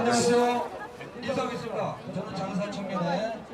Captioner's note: announcer speaking Korean